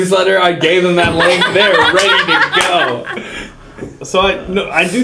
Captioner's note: laugh